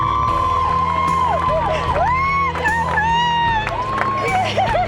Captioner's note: cheering